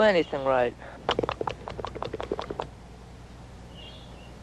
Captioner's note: baboon chatters